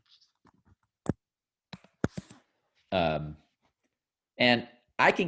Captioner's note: mouse clicking